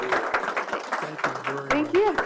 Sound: applause

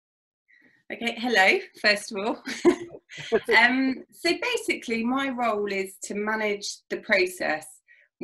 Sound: laughs

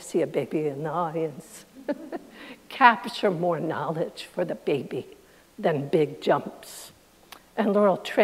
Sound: chuckles

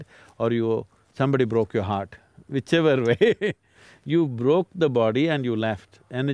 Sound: laughs

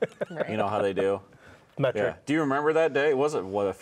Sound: laughing

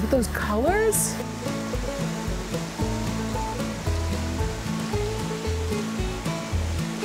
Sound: water gurgling; upbeat music

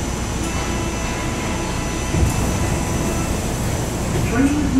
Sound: buzzer

